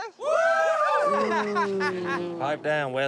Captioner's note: cheering